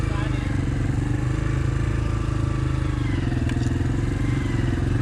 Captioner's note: bike engines roaring